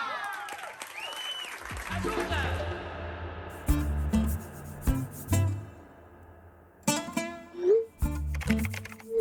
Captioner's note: Aplausos